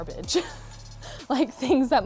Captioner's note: laughs